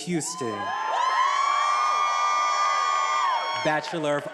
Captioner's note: attendees applauding and cheering